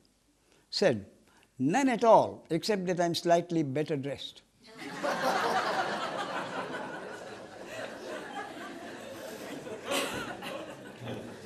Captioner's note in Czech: smích